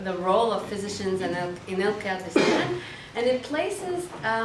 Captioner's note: participant coughing